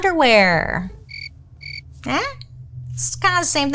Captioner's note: crickets chirping